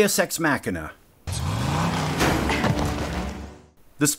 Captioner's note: post office truck revving engine; door slam